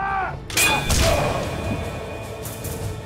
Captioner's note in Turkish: Kılıç sesi